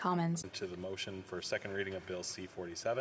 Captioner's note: speaking French